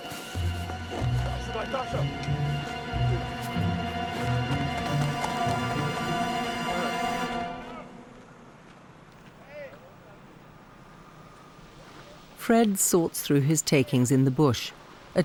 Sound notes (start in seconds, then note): 0.9 people chattering